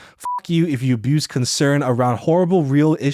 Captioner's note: beeps